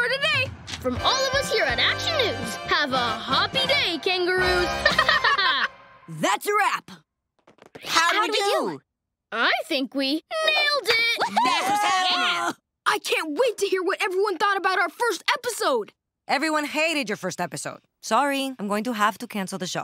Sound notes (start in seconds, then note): 4.8 laughing; 11.3 cheering